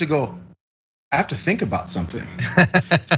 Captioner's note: laugh